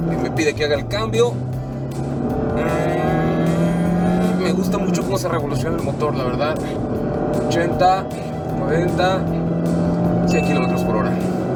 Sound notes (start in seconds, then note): 1.3 engine revving